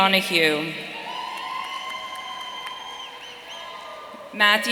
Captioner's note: audience cheering